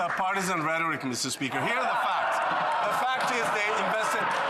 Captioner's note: applause